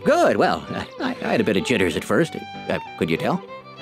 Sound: chuckles

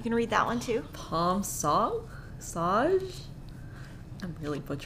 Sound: speaking foreign language

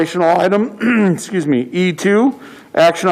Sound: coughs

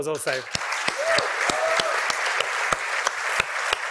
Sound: cheering and applause

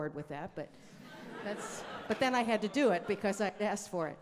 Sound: audience laughing

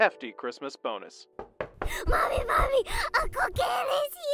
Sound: knock on the door

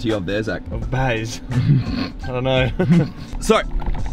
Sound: laughs

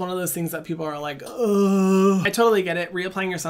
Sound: groans

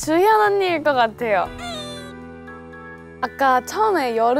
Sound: crying

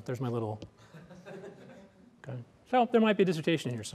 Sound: laughter

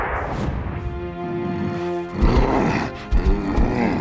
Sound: growling

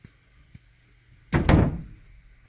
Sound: door slams

